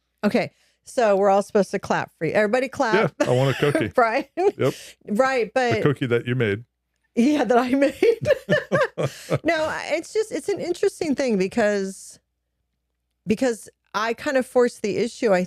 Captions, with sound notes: Okay, so we're all supposed to clap for you. Everybody clap. Yeah, I want a cookie. Right? Yep. Right, but-- The cookie that you made. Yeah, that I made. (both laughing) No, it's just, it's an interesting thing because I kind of forced the issue,